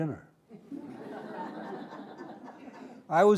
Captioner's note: audience laughing